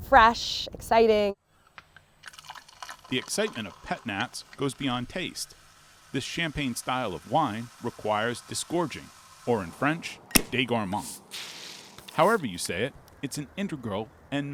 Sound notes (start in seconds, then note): 11.0 wine sizzling